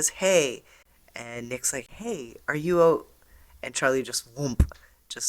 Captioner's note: whump